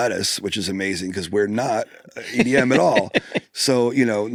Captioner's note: laughs